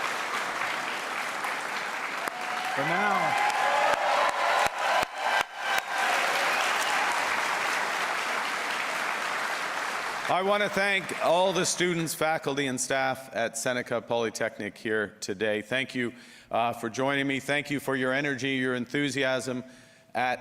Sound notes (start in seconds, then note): 2.7 applause; 6.4 cheers and Applause